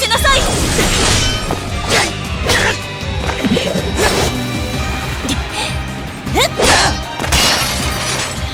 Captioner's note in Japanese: 戦闘音